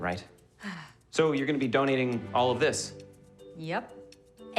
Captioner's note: sighs